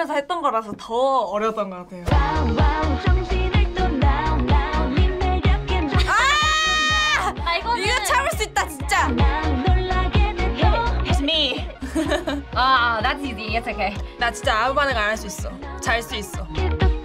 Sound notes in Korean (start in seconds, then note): 2.1 한국어로 노래하기; 11.6 웃음